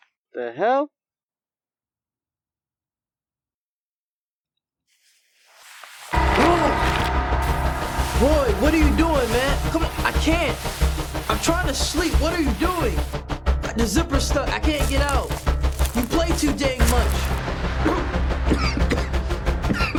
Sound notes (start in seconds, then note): 18.4 Andrew coughing